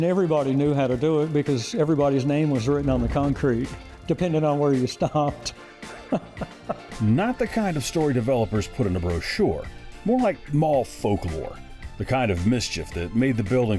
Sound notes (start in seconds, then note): 4.6 laughs